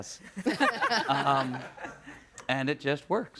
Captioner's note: all laughing